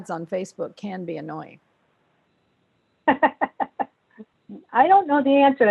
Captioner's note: laughter